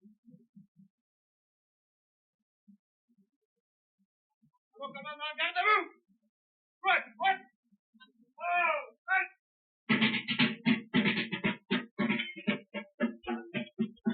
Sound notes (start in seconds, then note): 4.7 officer shouting commands in French; 9.8 drumming